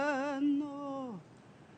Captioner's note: chanting